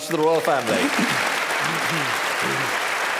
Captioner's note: applause